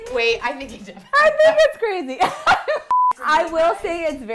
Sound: laughs

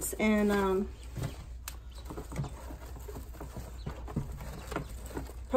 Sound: ducks chirping

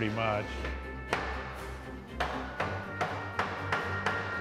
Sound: hammer pounding

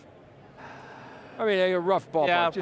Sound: sighs

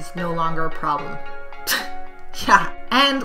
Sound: laugh

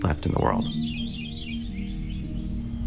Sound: birds singing

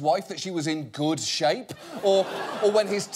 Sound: audience laughing

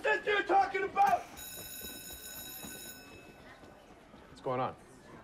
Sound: school bell rings

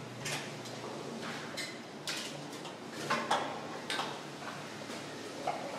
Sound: plates clattering

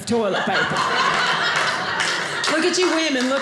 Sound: audience laughing

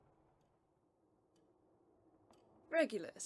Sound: clock ticking

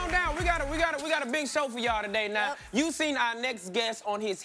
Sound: cheers and applause

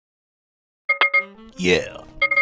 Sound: spear noise over a phone that i thought was very funny

